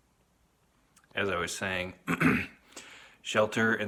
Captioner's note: clears throat